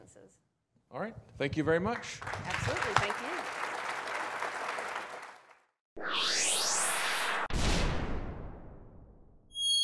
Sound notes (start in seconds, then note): 4.1 audience applauding; 6.0 swishing